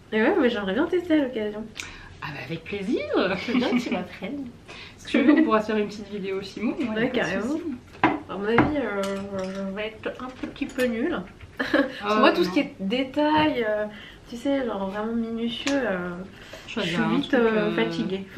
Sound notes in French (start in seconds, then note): 11.6 rires